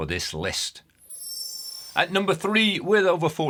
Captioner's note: screen twinkling